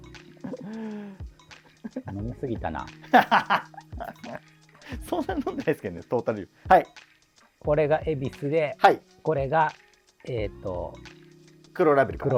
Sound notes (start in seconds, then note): 0.2 laughing